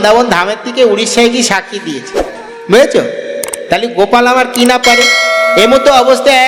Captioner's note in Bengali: ঘণ্টা